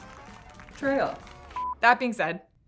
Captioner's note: beep